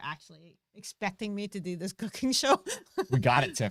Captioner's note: laughing